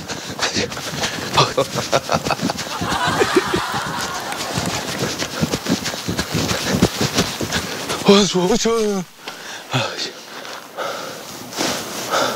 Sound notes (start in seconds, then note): 2.4 laughing